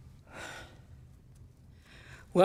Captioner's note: exhales